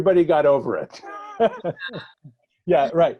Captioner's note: laughter